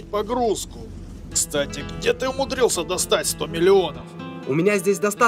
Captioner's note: on phone